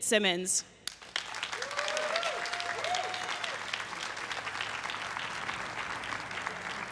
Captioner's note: everyone cheering and applauding